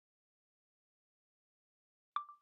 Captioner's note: chime of a phone recorder turning on